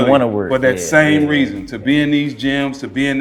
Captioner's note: Stephen Fulton laughing